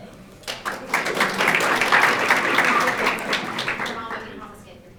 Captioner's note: audience applauding